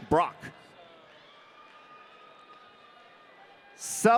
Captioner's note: audience cheering